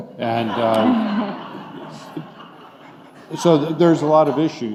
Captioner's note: laughing